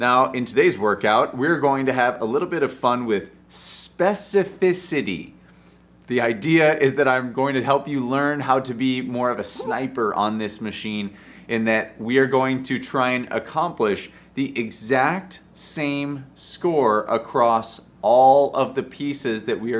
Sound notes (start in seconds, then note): 9.4 sniper grunting